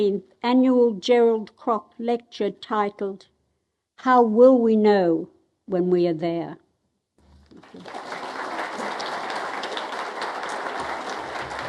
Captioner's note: applause